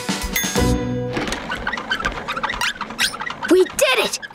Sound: squeaking

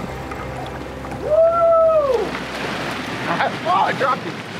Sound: cheering

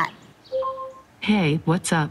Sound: Google Home beeping

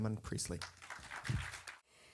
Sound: audience clapping

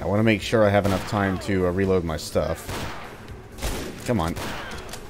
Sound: gunfight continues

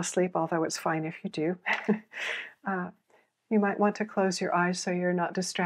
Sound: chuckles

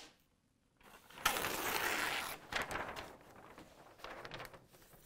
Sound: paper crinkles

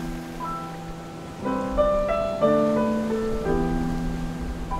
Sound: waves crashing

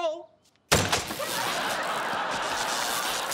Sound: sparking

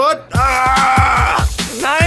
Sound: screaming

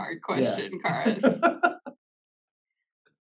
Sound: laugh

